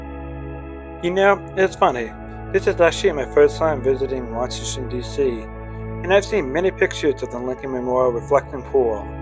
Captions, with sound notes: (Voiceover) You know, it's funny. This is actually my first time visiting Washington DC. And I've seen many pictures of the Lincoln Memorial Reflecting Pool.